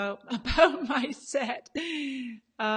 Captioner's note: laughs